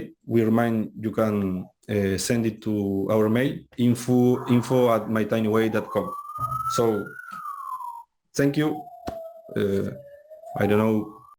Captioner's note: alarm sounds